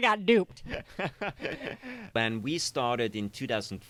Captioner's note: laughs